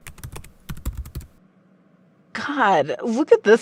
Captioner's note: typing